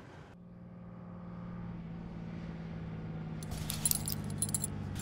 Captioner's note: car pulling up